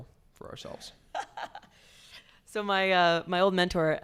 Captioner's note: laughs